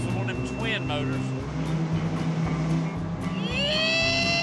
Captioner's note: revving